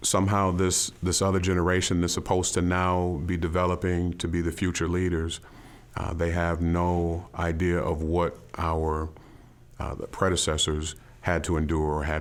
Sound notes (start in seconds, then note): none